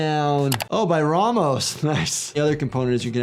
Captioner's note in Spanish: clics del ratón